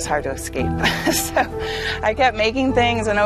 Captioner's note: laughing